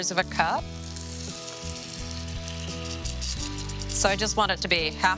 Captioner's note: water pouring